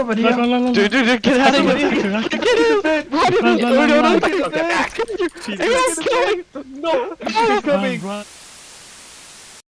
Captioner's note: audible confusion